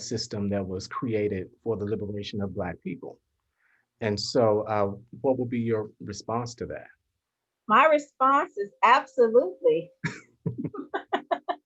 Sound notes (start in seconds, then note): 10.4 laughter